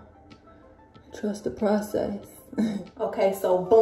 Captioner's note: chuckles